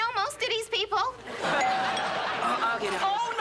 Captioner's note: doorbell rings